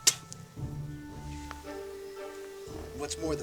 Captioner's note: spitting